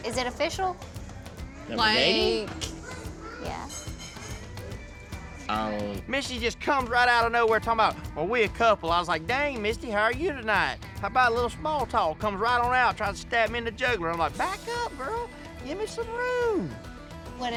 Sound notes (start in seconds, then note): none